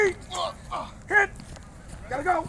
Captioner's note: grunting